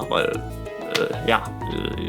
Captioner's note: clap